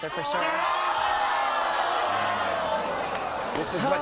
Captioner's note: audience screams